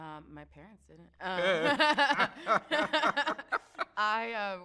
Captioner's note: both laugh